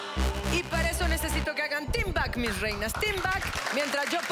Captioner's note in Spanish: Exclamaciones